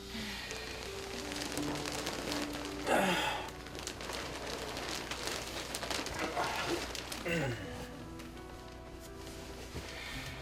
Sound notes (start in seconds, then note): 2.7 groaning